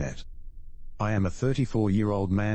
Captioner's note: electrical noise